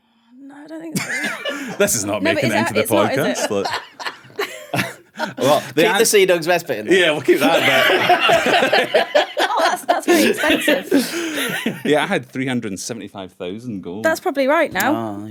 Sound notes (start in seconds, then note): 10.2 unsure laughter